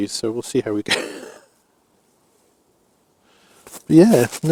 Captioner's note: laughs